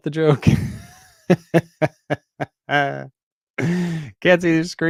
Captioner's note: chuckles